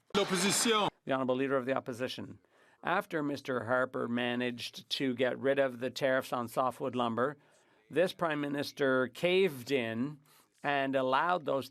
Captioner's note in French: applaudissements